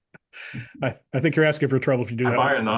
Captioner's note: laugh